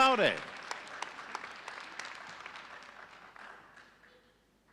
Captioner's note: audience applauding